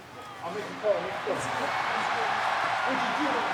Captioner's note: crowd cheers